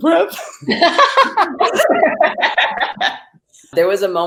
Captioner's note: laughter